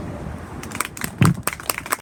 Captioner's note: applause